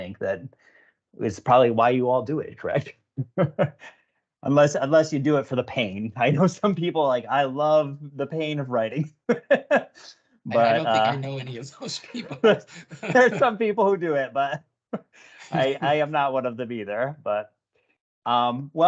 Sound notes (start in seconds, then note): 3.2 laughs; 10.5 laughs; 12.2 laughter